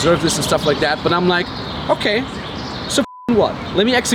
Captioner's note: beep